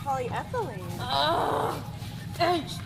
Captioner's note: happily groans